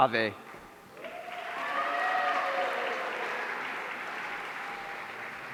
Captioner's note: audience cheering